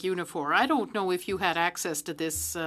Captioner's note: speaking French